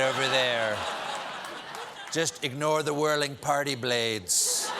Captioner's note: laughter